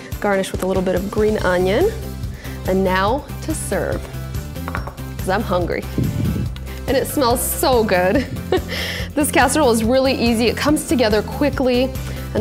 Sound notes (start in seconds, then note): 8.0 laughs